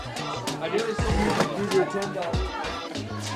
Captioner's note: mixed chatter